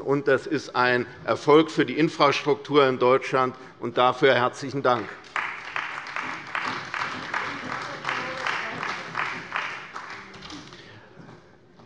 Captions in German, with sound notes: Das ist ein Erfolg für die Infrastruktur in Deutschland. Dafür herzlichen Dank. [Beifall bei der CDU]